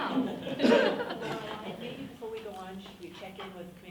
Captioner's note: group laughing